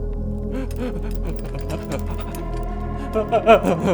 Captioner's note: Rex groaning